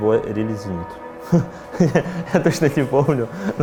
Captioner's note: laughs